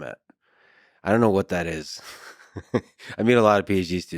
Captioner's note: laughs